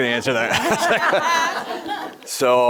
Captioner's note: all laughing